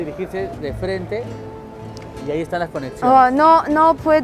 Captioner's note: spanish; continues to speak in spanish; spanish